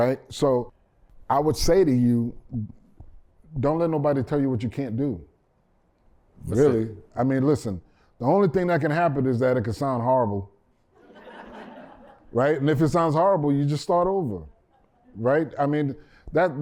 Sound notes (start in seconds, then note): 10.9 laughter